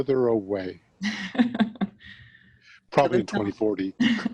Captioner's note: laughs